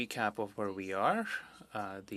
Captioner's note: speaking French